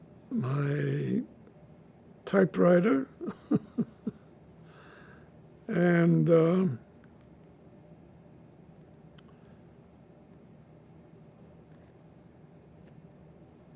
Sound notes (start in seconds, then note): 3.2 laughing